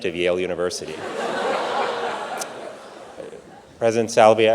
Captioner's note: audience laughing